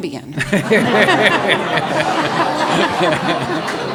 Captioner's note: all laughing